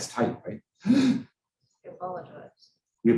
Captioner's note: lecturer gasps